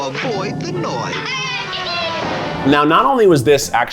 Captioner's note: character laughs